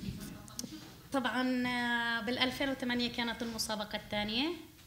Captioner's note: speaking arabic